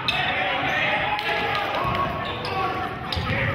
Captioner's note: yelling